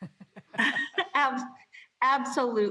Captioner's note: laughter